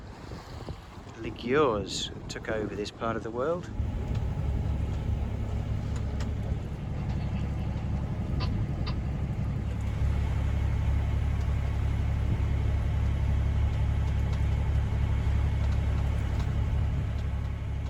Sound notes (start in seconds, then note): 6.8 engine noise